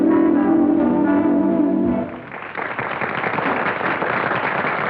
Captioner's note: applause